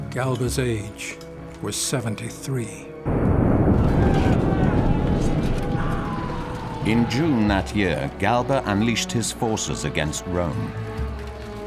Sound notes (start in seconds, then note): 3.2 dramatic music; 3.7 men shouting